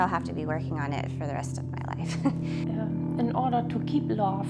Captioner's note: laughs